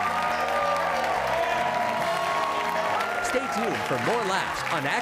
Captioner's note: applause